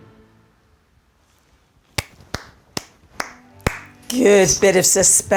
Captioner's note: claps